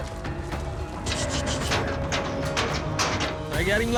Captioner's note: gate clanking